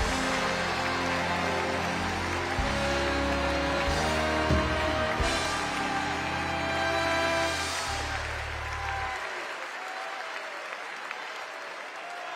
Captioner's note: cheers and applause